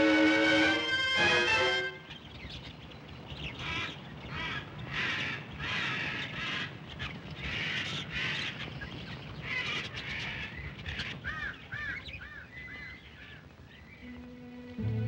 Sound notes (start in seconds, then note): 0.0 tense music; 2.0 birds chirping & squawking; 14.1 tense music